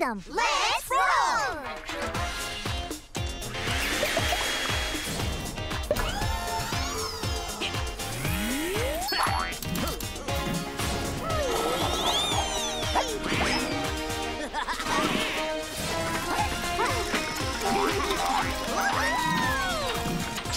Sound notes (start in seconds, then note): 2.6 upbeat music; 4.1 whirring; 14.1 laughing